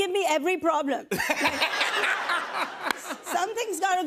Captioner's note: laughter